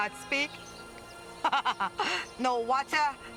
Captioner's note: laughs